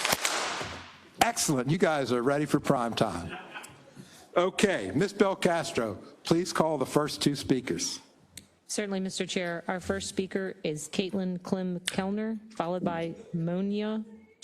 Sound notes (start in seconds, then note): 0.0 applause; 3.2 laugh